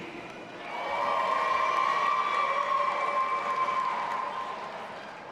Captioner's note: audience applauding and cheering